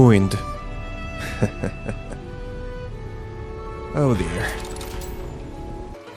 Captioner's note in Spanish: risas